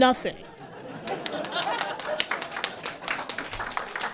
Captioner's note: applause